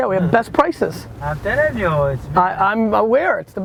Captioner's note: voiceover